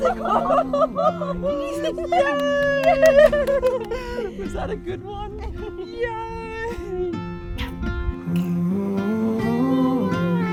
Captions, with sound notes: (laughing) Yay! - Was that a good one? Yay!